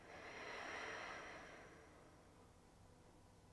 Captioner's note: exhaling